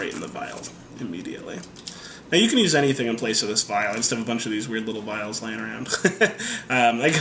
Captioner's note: laughter